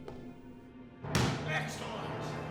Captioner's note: hand slaps